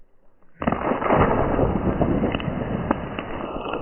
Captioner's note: water splashes